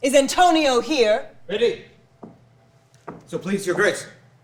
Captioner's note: footsteps clomping